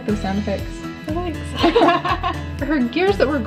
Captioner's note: both laugh